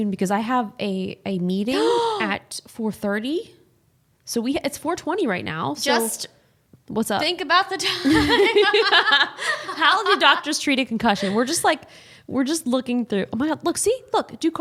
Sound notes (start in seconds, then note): 9.6 both laughing